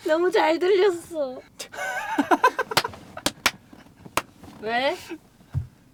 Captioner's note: laughter